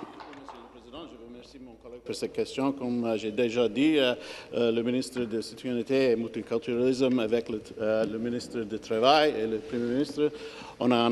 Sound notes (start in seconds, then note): 3.4 speaking French